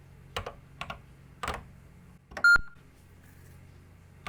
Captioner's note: typing on a C64 keyboard